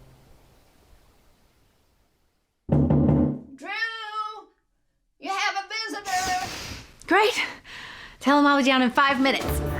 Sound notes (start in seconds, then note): 2.7 knocking on door